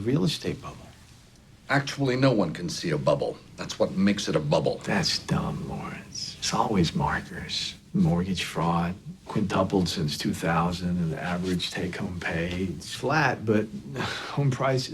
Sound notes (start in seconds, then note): none